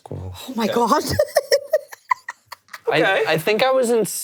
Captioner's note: laughs